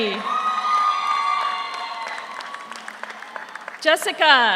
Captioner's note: audience cheers; audience applauds